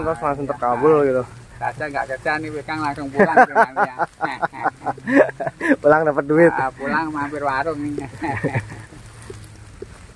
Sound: laughs

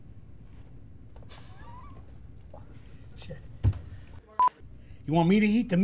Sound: laughs

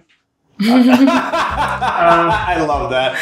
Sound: laughs

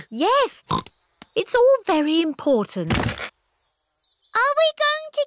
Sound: snorts

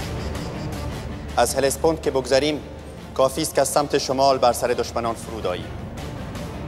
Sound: intense orchestral music; Mardonius speaking in foreign language

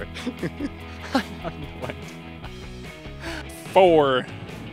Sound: laughing

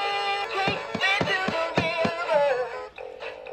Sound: singing; repeated tapping sounds fading in

